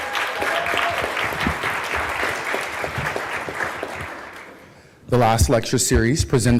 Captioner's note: applause